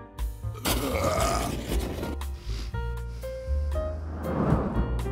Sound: sniff

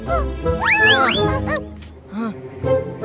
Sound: screaming

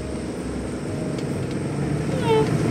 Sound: golf Cart Rumbles; whimsical Music

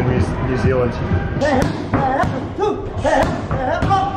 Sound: grunting

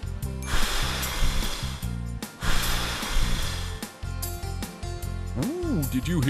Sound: sound of someone blowing air

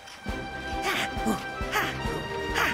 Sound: panting

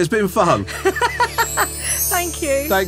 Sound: laughing

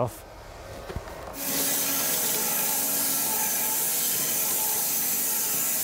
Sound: saw blade humming

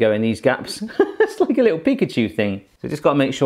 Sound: giggling

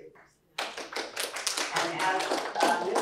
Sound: applause

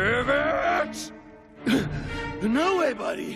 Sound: grunting

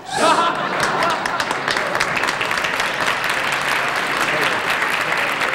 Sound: audience applauding

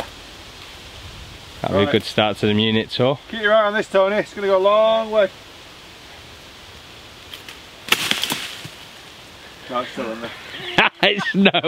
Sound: laughs

